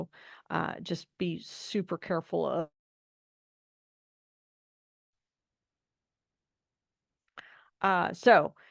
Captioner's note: no 15:05:08 audio